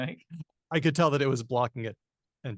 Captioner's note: laughs